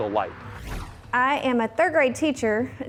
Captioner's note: whoosh